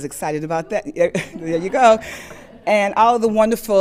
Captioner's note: all laughing